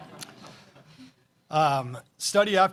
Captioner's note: laughter